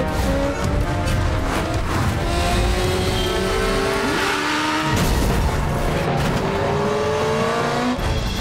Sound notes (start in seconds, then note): 2.6 honking; 4.2 thudding